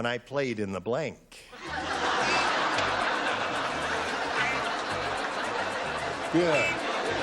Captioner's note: laughter